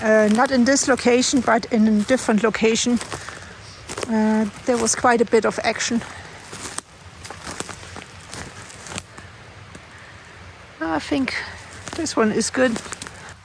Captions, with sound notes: Not in this location, but in a different location. There was quite a bit of action. [Footsteps] I think this one is good.